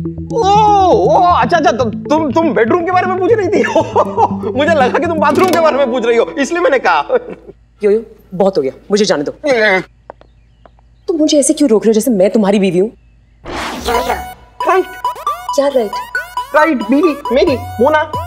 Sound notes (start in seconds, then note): 3.6 Laughs